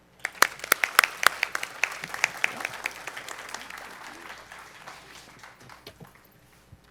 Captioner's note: applause